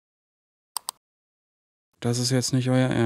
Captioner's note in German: Klicken